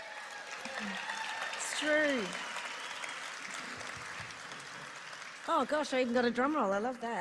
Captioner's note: applause